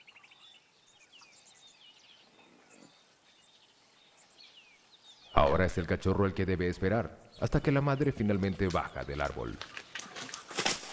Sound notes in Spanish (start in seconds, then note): 0.0 sonidos selvático